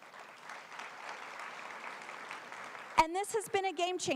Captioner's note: applause